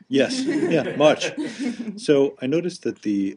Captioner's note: laughter